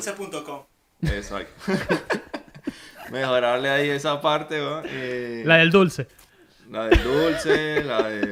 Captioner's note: laughs